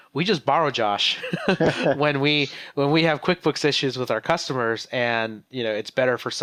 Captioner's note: laughs